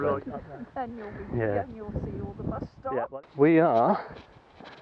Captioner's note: laughter